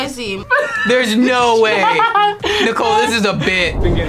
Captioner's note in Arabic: يضحك